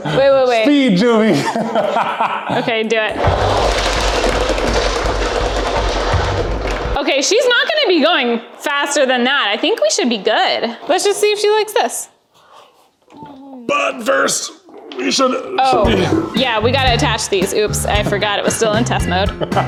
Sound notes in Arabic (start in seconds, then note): 0.2 يضحك يضحك بلطف; 1.7 تضحك بصوت عال; 3.1 خشخشة العجلة بشكل صاخب; 14.4 يئن